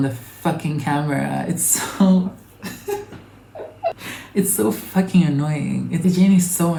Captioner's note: chuckles